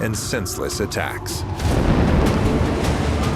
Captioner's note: explosion; theme music